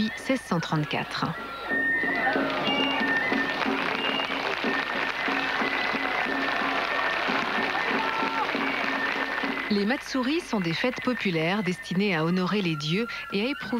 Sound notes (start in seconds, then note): 2.1 applause